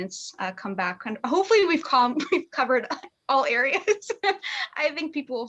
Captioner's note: chuckles